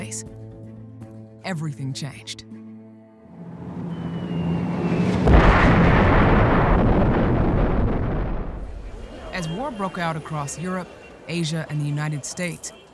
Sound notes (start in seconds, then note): 3.8 bombs whistling; 4.8 explosion roars